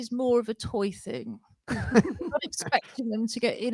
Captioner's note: laughter